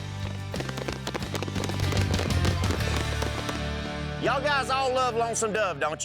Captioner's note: cowboys clapping